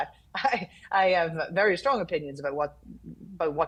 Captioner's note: chuckles